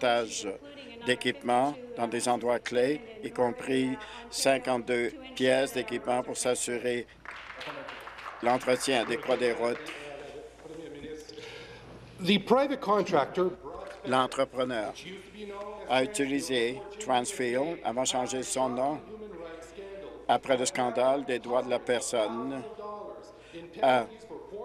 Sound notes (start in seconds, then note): 13.6 speaking in French